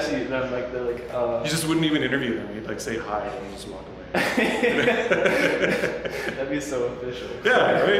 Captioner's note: laughing